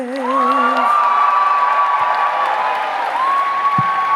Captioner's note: audience cheering